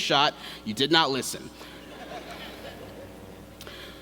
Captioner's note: laughter